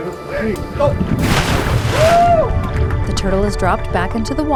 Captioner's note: water splashing